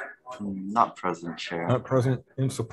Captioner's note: deeply Voice